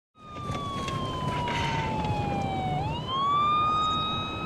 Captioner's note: siren wailing